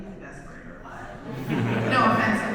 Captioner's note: audience laughs